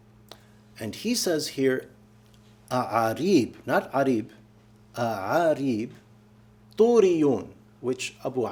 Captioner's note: speaking arabic